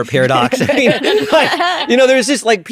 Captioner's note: all laughing